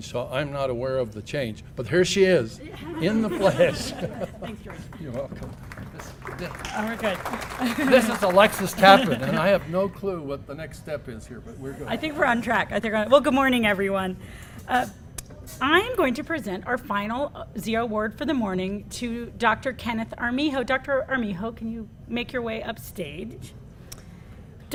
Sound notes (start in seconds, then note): 2.6 laugh; 5.8 applause